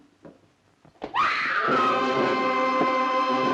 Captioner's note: screams; loud suspenseful music